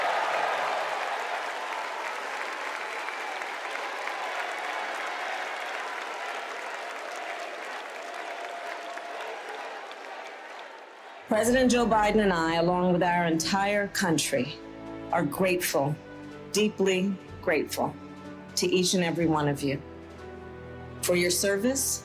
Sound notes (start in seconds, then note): 5.7 cheers and applause